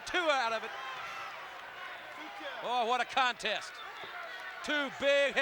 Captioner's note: applause